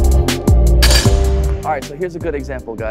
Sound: weights clattering

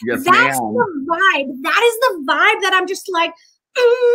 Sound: humming

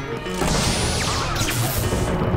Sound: electrical zaps

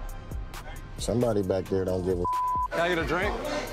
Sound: beep

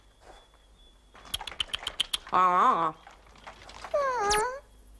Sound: clicks tongue; moans

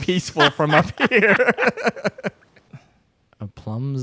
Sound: both laughing

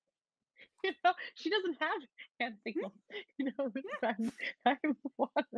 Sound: laughs

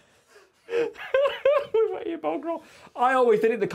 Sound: laughs

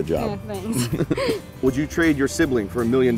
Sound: laughter

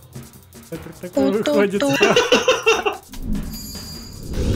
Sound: laughs

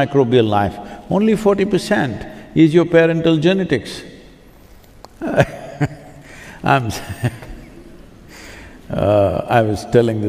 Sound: laughs

